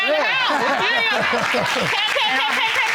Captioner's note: laughing